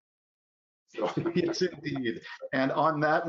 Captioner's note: both laugh